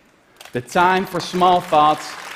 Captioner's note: applause